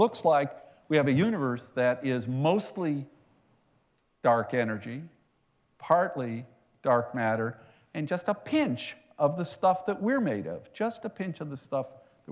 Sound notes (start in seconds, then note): none